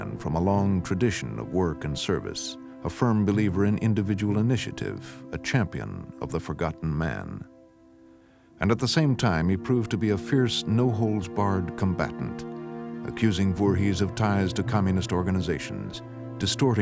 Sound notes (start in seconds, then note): none